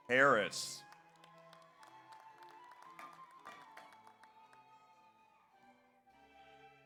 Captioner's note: audience applauds; audience cheers